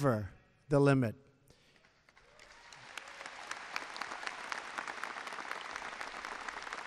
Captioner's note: applause